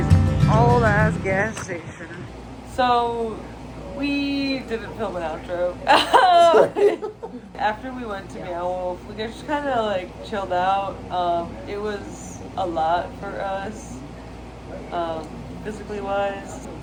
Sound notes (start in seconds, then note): 0.0 music fades; 5.9 laugh